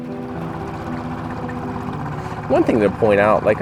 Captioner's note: boat engine purring